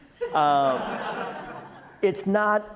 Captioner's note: audience laughs